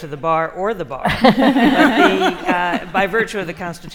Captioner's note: laughter